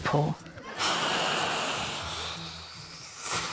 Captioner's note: exhales loudly